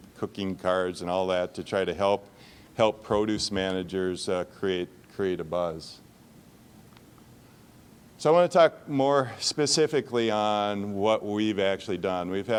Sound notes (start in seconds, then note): none